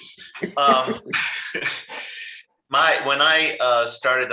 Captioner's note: laughs